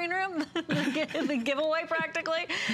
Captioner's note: laughter